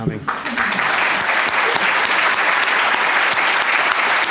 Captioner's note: applause